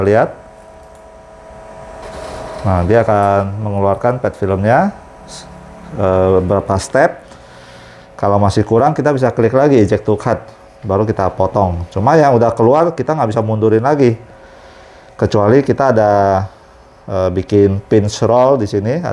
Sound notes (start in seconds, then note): 0.8 clicking noise; 2.2 printer machine noise